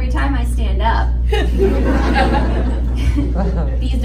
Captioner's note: audience laughs